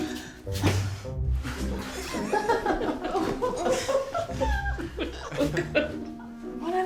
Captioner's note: everyone laughing